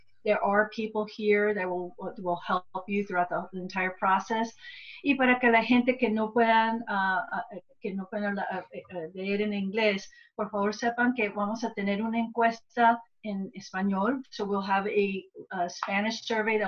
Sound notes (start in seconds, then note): 5.1 gives summarization in spanish